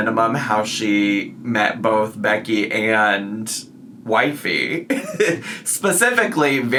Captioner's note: laughs